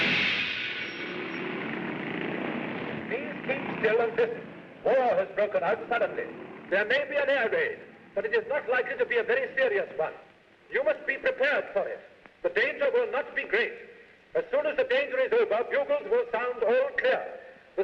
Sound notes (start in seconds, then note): 0.9 vehicles rumble